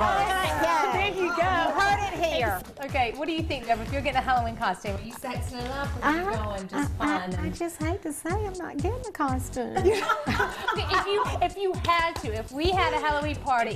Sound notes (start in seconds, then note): 5.4 laughter